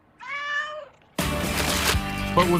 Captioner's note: cat meows